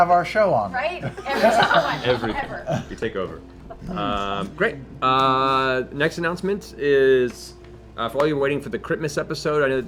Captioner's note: laughs